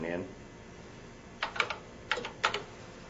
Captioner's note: keys clacking